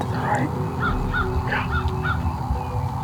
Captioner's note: whispering